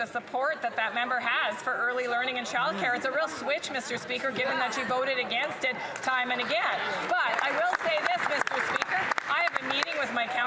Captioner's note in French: voix de l'interprète